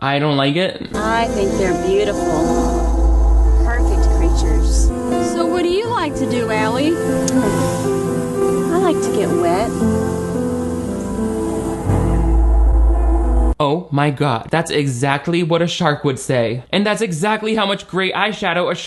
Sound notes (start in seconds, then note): 5.0 suspenseful music; 7.0 scoffs; 10.0 suspenseful instrumental music